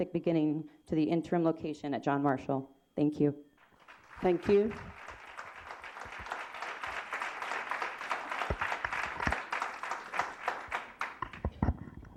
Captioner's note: applause